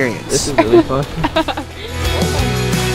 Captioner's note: laughs; upbeat music